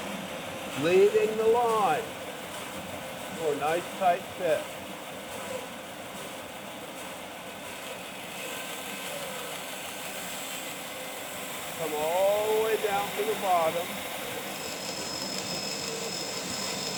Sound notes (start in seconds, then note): 5.4 band saw cutting; 5.4 band saw running; 14.5 band saw cutting